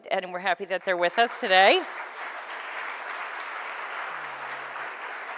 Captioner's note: audience applauds